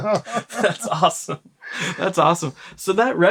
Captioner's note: laughter